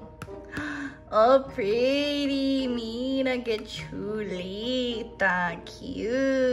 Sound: speaking foreign language

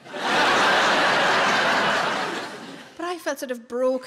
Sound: laughing

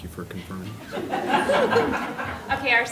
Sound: laughter

